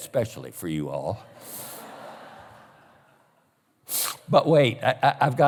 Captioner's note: laughter